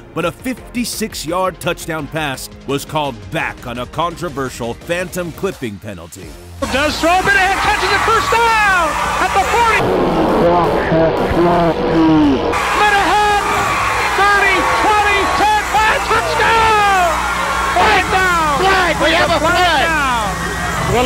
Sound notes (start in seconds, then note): 10.4 tape grinds slowly